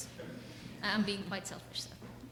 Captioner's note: audience chuckles